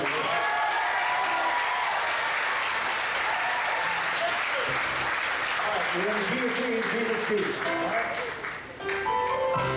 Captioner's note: applause